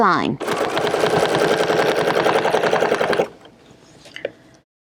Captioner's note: machine whirring